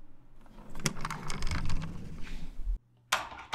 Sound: stretcher sound

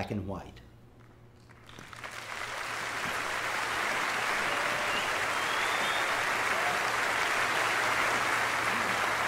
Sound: applause

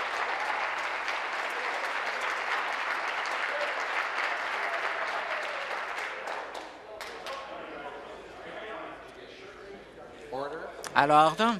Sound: applause

